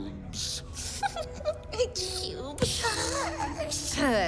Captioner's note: snickers to self